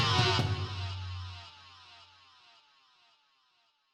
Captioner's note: metal slamming